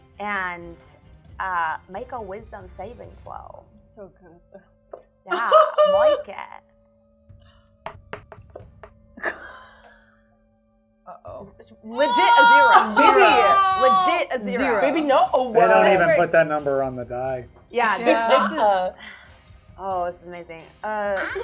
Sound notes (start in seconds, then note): 5.3 laughing; 6.9 die rolling; 8.9 laughing